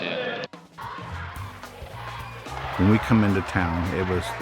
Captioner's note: crowd cheering